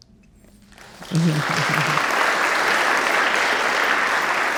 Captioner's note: audience applauding